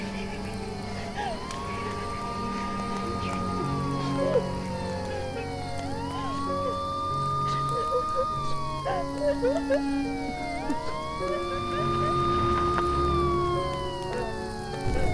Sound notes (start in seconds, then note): 0.0 Maggie crying; 0.2 police sirens blaring; 3.0 gentle music; 5.5 fire raging; 7.0 gentle music; 8.7 fire raging; 10.7 Maggie crying; 12.4 police sirens blaring; 14.9 fire raging